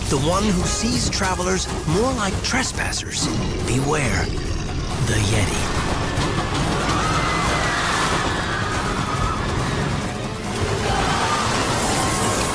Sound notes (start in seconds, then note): 6.5 guests screaming